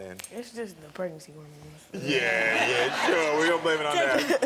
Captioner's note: laughs